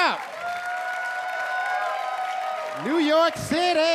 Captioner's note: audience clapping and cheering